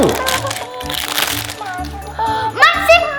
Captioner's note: hatchling murmuring